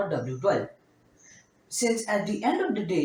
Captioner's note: again, long pause